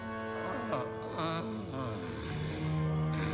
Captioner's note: moaning